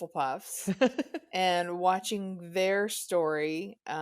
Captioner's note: laughs